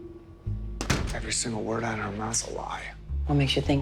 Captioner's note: door closes